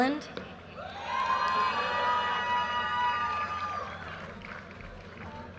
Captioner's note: audience cheers and applause